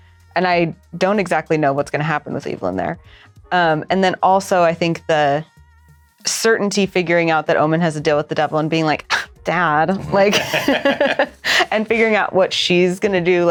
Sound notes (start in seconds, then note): 10.0 laughter; 10.0 scoffs